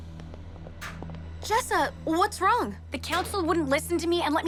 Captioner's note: door closes